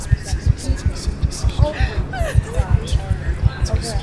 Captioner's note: heartbeat accelerates; faint crying